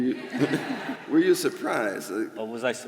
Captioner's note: laughter